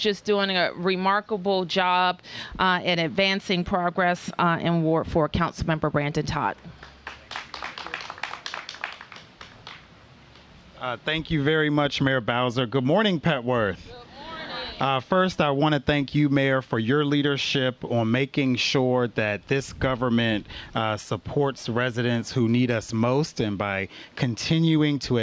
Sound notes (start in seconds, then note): 9.4 applause